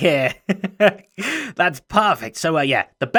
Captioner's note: chuckles